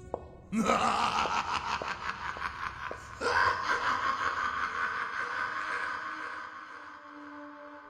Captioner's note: maniacal laughter